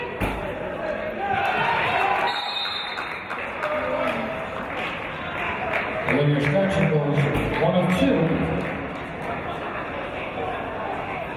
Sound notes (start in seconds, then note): 1.8 applause; 2.2 referee's whistle